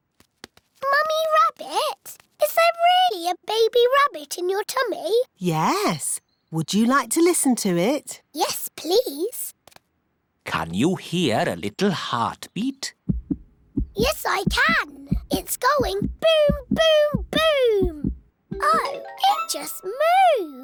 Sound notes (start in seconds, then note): 13.0 heart thumps